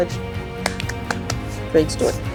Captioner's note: claps